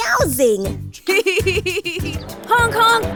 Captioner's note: laughs